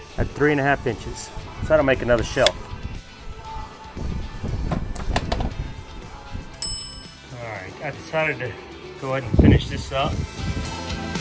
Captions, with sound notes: at three and a half inches so I don't make another shelf. (bell ringing) All right, I decided to go ahead and finish this up.